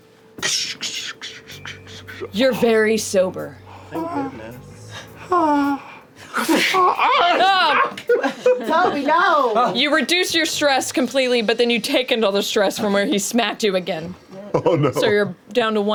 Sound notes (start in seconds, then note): 3.6 groans; 6.2 laughs; 6.6 slaps; 6.6 screams